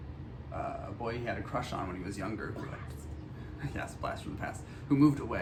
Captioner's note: whispers